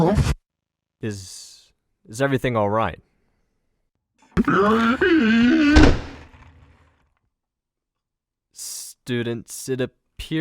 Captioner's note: George cries, door slams